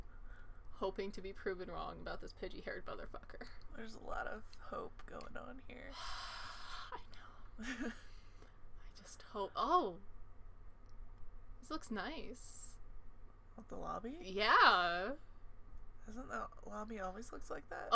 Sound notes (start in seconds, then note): 6.0 sighs; 6.6 whispers